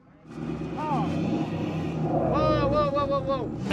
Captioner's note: tires spinning